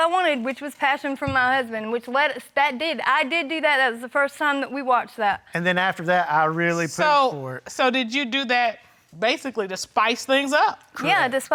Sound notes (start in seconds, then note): none